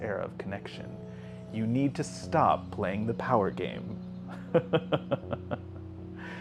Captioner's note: laughs